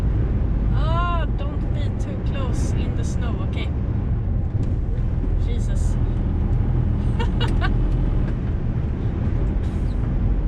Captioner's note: panic laugh